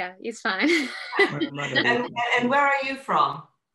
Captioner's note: chuckles